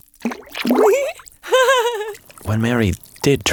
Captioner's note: Mary giggles